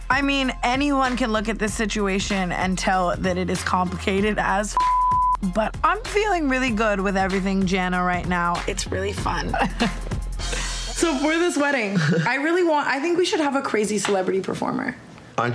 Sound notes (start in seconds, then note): 4.7 beep; 9.3 laughs